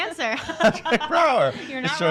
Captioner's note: laughing